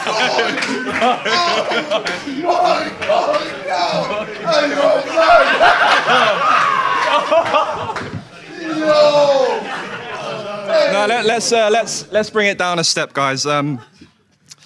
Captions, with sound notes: (Sidemen laugh) My god, no. Oh, you're mad. (audience laughs) No. - Now let's bring it down a step guys.